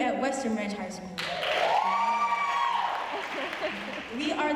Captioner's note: applause and cheering